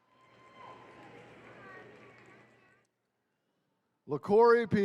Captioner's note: attendees cheering